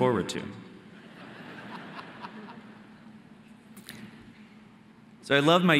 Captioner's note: audience laughing